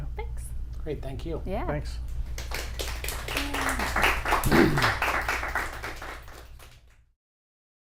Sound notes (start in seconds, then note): 2.3 applause